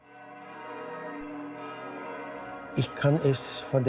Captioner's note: bells chiming